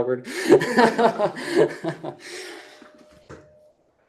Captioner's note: laughs